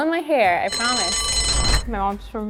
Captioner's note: timer rings